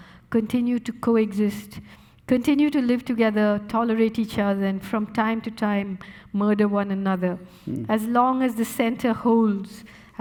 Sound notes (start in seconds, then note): none